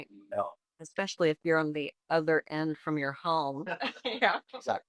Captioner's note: chuckles